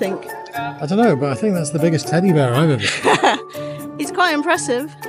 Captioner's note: laughs